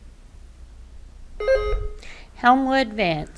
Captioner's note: button buzzing